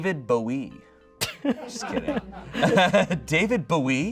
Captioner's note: audience laughing